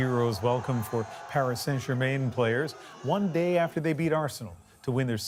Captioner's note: cheers and Applause